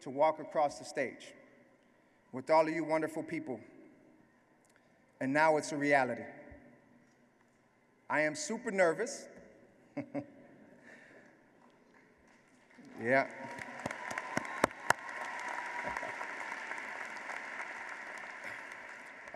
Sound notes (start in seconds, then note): 11.4 laugh; 15.2 applause